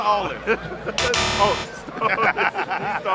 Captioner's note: X buzzes